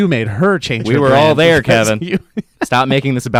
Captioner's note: laughs